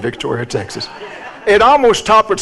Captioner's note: audience laughs